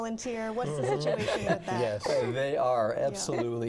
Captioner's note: chuckling